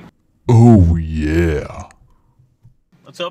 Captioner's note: deep Voice